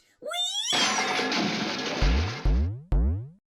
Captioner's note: That one sound effect from Mario Maker